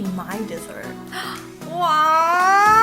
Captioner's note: gasp